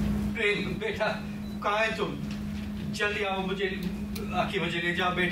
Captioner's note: speaks in foreign language